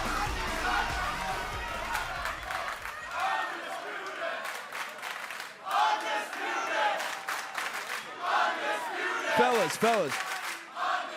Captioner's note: crowd cheering